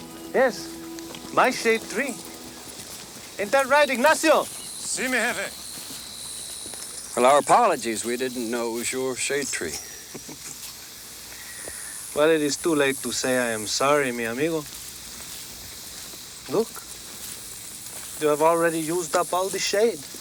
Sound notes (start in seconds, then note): 4.8 Ignacio speaks Spanish; 9.7 Tors chuckles